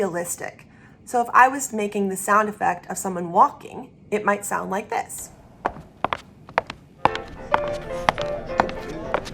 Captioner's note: sound of footsteps